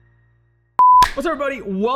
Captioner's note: beeping